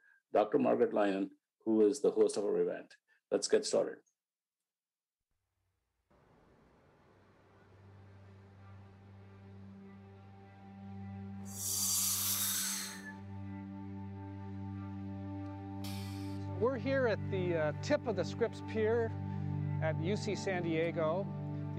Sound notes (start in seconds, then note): 8.3 soft music; 11.5 air whooshing